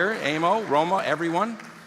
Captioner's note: applause